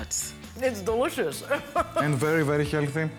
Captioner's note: chuckles